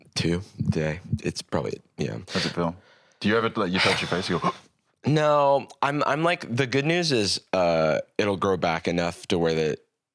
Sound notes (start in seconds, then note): 3.7 gasps